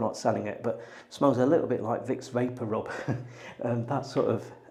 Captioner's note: laughs